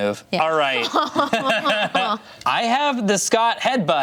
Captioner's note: all laugh